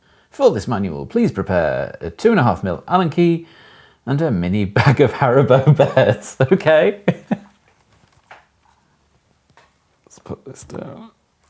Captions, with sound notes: For this manual, please prepare a two and a half mil Allen key, and a mini bag of Haribo Bears, (chuckles) okay. Let's put this down.